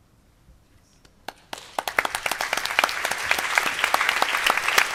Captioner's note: applause